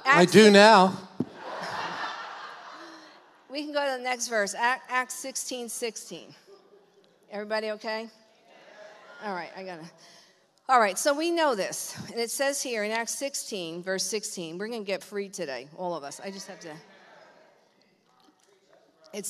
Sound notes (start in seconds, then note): 1.2 congregation laughs; 8.1 congregation confirming